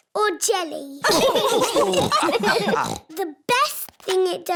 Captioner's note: laughter